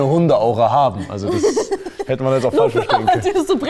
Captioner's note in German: Lachen